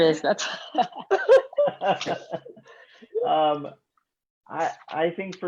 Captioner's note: group laughs